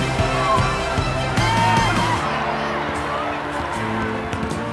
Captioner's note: cheers and applause